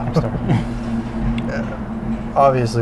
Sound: laughs

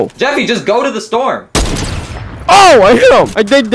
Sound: loud gunshot

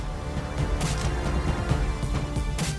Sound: camera clicks

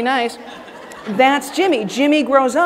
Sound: audience laughing

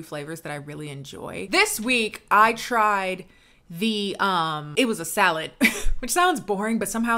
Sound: laughs

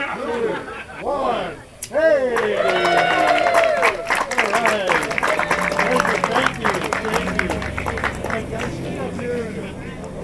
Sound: cheers and applause

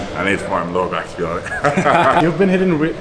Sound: testosterone laugh

